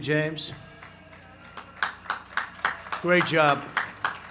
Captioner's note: applause